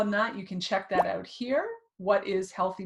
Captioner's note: thumbnail pops